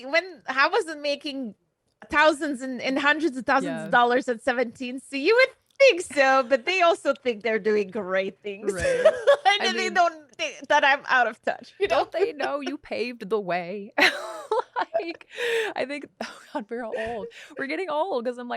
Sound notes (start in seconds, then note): 8.6 laughs; 14.0 both laughing